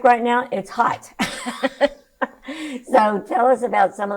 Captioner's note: laughs